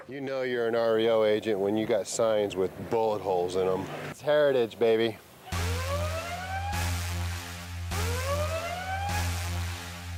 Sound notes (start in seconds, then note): 5.5 siren wailing